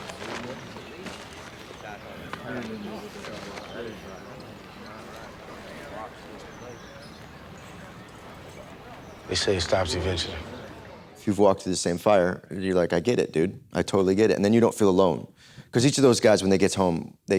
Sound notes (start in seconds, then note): 0.0 cans rattle and bag rustling; 0.0 indistinct chatter